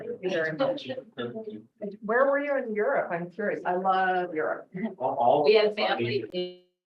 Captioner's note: indistinct chatter; indistinct chatter